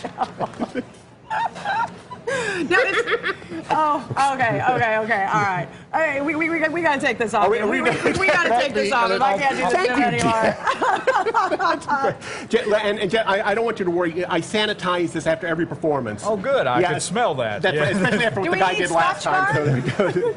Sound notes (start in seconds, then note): 7.7 laughter; 16.1 laughter